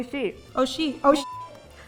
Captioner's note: speaking in Japanese; bleeping sound